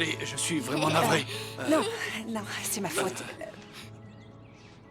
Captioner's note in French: rires